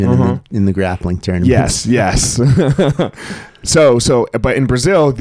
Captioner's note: laughing